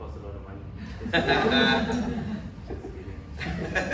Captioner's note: audience laughs